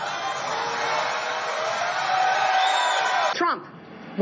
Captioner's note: audience cheering